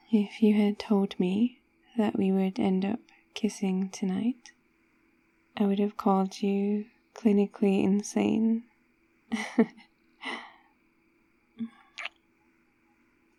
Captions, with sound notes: if you had told me that we would end up kissing tonight... I would have called you clinically insane *laughs* *kiss*